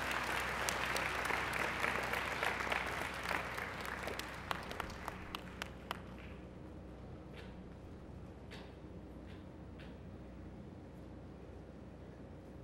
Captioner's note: applause